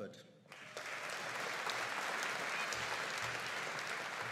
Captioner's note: audience applauding